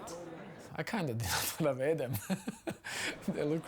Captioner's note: laughs